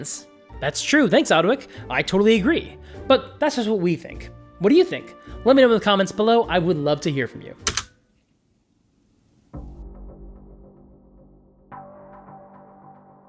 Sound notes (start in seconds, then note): 7.6 click; 8.7 eerie music